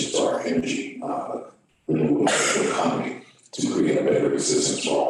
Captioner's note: audience member coughs